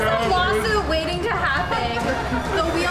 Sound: laughter

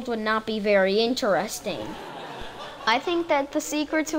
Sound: audience laughing

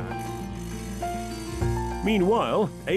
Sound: gentle music; saw grinding

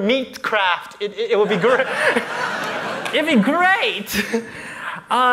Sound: laughter

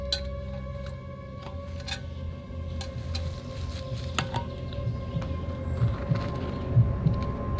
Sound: heart beating; metal clanking

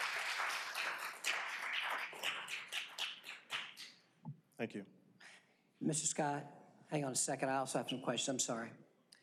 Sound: applause

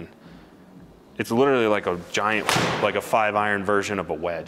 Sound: ball thuds

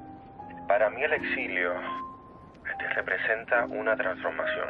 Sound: speaking Spanish

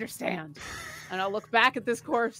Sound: laughs

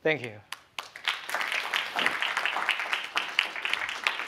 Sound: applause

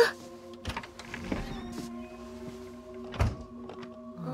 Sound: door opens

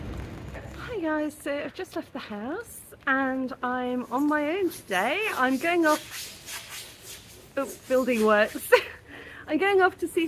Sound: sawing

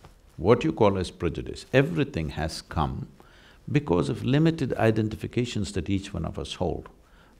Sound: none

